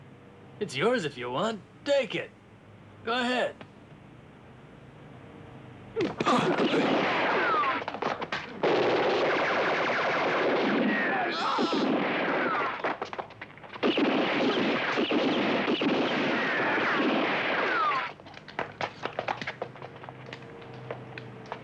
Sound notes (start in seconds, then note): 6.0 men grunt; 6.3 guns blasting; 11.0 man yells; 12.6 guns blasting; 18.1 shuffling footsteps